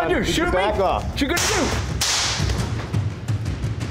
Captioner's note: gunshots; intense music